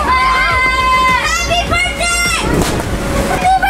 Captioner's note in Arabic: أطفال يصرخون